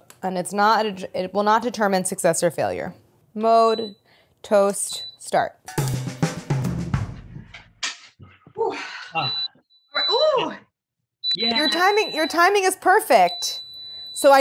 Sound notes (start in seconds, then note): 5.7 drum rolls; 9.1 toaster beeps